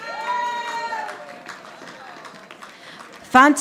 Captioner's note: audience applauding